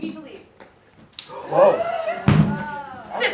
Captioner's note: gasps